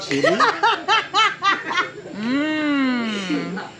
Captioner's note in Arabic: ضحك محلي